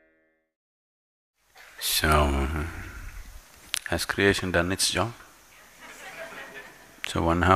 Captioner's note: laughter; 笑聲